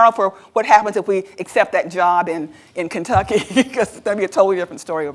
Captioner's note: laughs